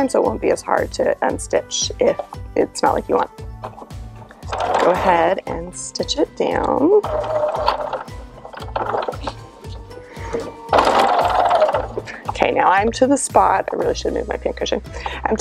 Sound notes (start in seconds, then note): 7.4 machine whirring